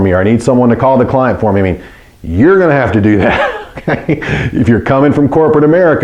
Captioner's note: laughs